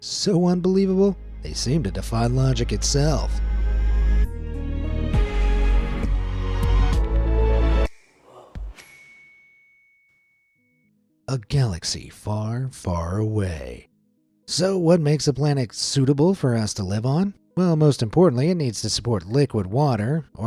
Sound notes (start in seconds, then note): 3.9 light suspenseful music; 8.8 bell dings